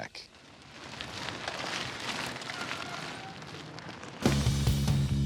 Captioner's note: gravel crunching; heavy rock music